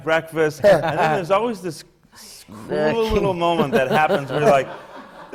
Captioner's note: laughs; laughter